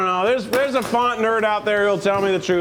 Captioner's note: object clatters